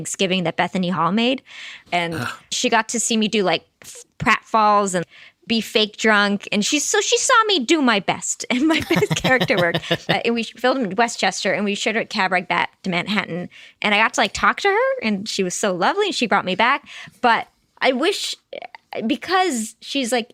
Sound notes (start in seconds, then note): 8.7 laughing